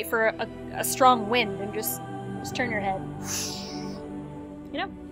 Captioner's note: whooshing sounds